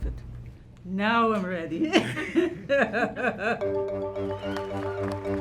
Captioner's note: chortles; anticipatory music